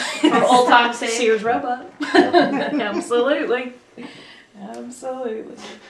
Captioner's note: laughter